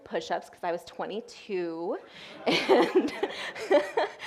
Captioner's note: audience laughing; laughs